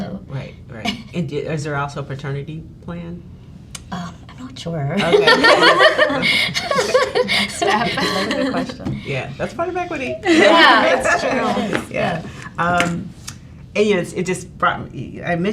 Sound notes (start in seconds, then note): 5.0 laughs